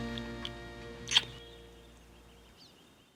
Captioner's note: smooch